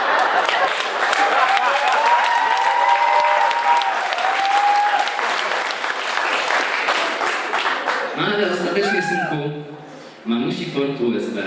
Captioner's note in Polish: Aplauz